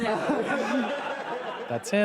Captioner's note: audience laughs